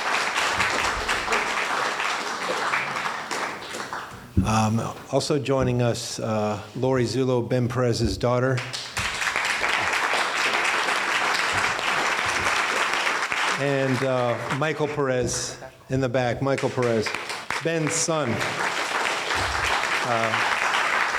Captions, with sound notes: Also joining us, Lorrie Zullo, Ben Peres's daughter. (applauding) And Michael Peres in the back, Michael Peres, Ben's son. (applauding)